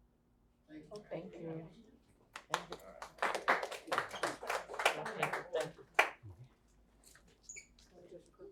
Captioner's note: applause